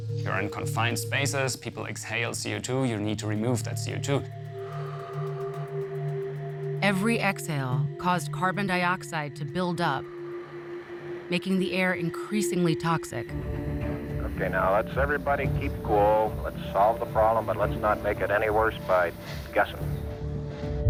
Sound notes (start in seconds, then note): 4.6 person exhales